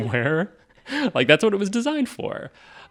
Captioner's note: laughing